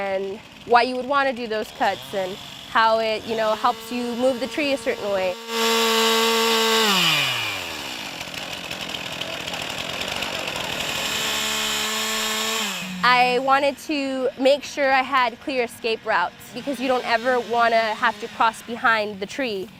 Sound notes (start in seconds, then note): 5.0 chainsaw noise